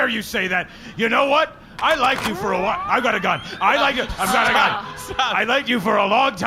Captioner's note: gun charging